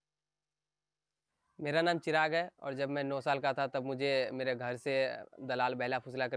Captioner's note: speaking in foreign language